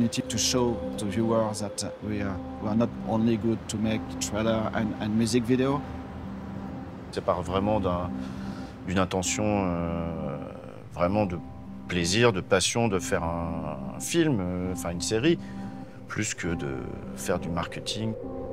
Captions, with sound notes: to show to viewers that we are not only good for making trailers and music videos. [IN FRENCH] It really starts with a joyful, passionate intention to make a film, or a TV show, and not just marketing.